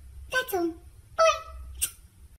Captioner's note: smooch